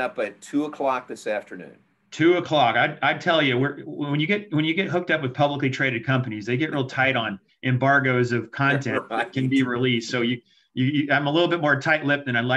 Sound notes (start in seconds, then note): 8.6 laughs